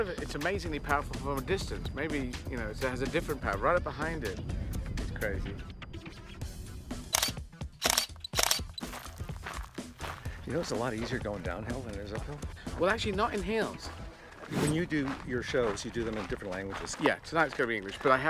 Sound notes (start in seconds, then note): 7.8 camera snapping; 8.3 footsteps crunching